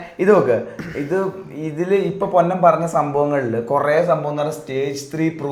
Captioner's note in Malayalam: തൊണ്ട ശരിയാക്കുന്നു